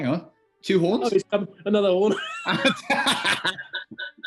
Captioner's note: laughter; laughter echoes as feedback